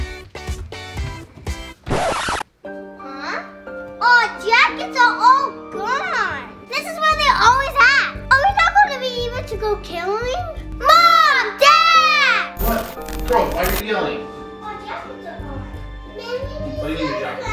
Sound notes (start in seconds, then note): 0.2 upbeat energetic music; 1.8 record scratching; 2.9 slow dramatic music; 16.3 Parker babbling